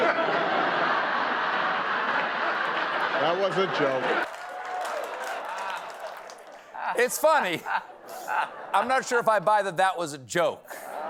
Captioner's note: laughter